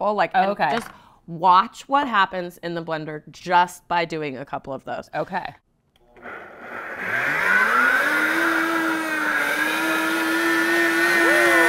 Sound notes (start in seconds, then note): 7.6 blender whirring